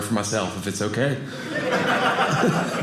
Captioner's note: audience laughing